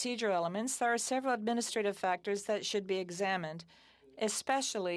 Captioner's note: speaking French